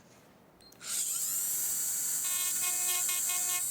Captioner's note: persistent high-pitched whirring; lower whirring during milling